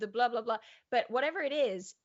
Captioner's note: blabs softly